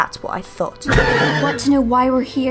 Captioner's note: Roach neighs